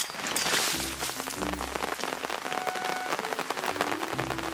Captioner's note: rain water crashed down